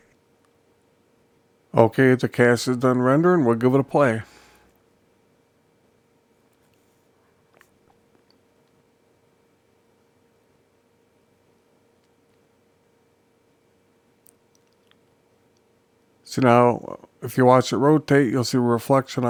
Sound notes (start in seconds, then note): 4.2 silence